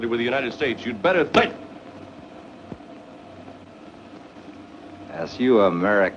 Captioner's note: smacking